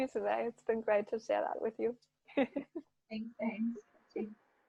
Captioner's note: laughs